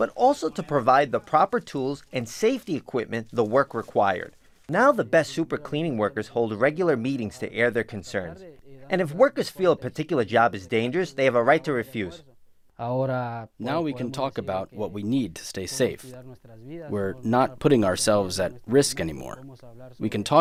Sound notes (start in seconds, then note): 13.0 speaking in Spanish